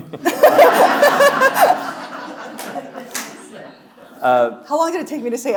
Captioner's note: chuckles; audience laughing; laughing